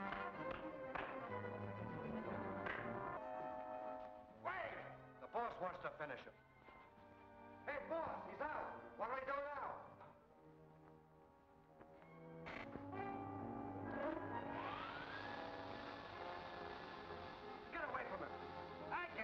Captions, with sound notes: - Wait, the boss wants to finish him. Hey boss, he's out. What do we do now? (saw buzzing) Get away from him!